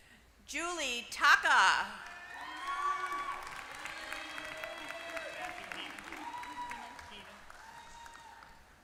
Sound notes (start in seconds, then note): 2.0 applause